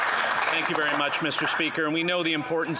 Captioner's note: applause